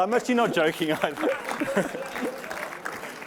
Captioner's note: applause